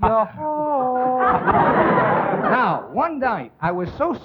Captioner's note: all laughing